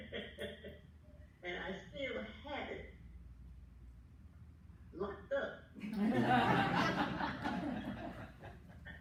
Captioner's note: laughing